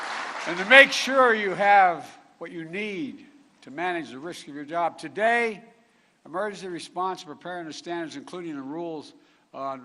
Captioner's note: applause